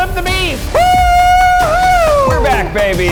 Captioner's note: cheering